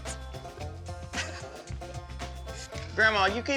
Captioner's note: laughing